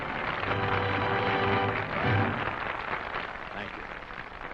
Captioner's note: applause